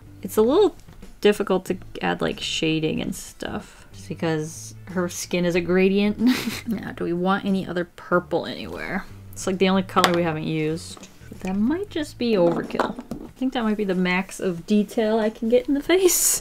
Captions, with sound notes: It's a little difficult to add like shading and stuff Because her skin is a gradient. [Chuckles] Do we want any other purple anywhere? It's like the only color we haven't used. That might just be overkill I think that might be the max of detail I can get in the face